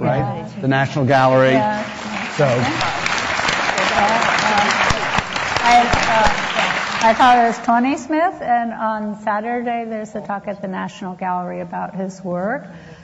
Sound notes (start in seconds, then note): 1.2 audience applause; 1.4 applauds